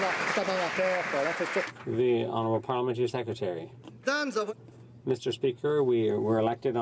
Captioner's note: some Applause